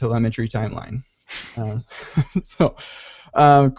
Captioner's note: chuckles